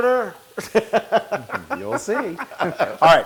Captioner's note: laugh